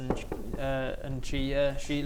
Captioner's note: knock knock knock